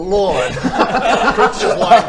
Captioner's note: laughs